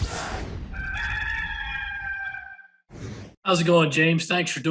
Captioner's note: rooster crowing